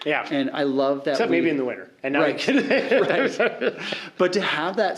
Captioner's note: laughing